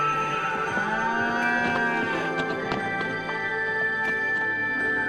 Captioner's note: sheep bleating; cow mooing; gentle music